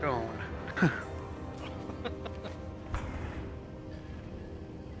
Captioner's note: laughs